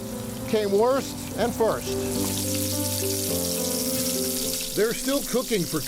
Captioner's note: sad music; sizzling grill